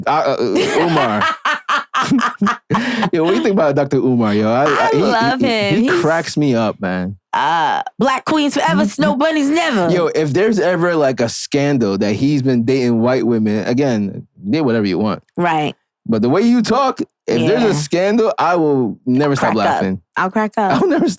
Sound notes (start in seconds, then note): 0.2 laughing